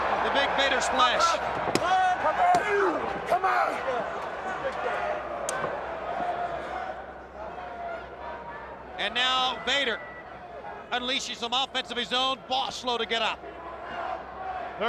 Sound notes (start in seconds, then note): 2.4 crowd chattering